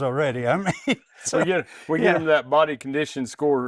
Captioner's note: laughing